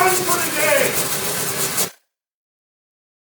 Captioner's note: coolant hissing